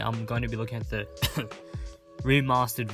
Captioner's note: fake Cough